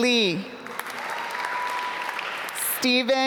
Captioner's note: applause